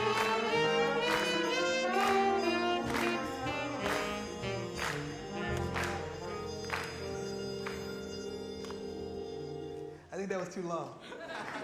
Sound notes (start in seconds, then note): 11.0 laughter